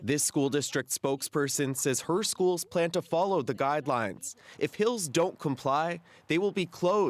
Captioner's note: speaking French